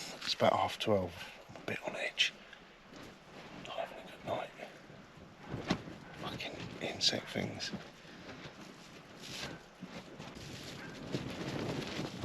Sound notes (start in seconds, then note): none